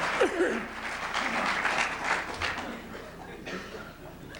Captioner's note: laughter; applause